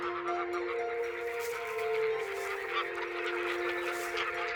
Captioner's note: geese garbling